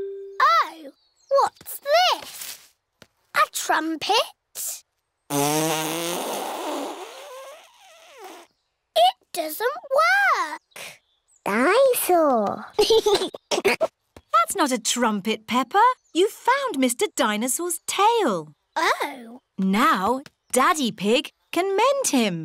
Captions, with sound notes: Oh, what's this? A trumpet? (BLOWS RASPBERRY) It doesn't work! Dine-saur! (GIGGLES) That's not a trumpet, Peppa. You've found Mr. Dinosaur's tail. Oh. Now Daddy Pig can mend him.